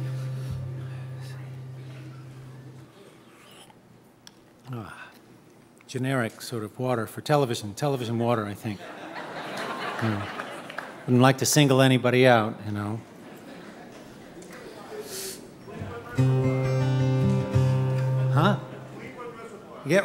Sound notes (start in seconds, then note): 9.0 laughs; 16.2 guitar twanging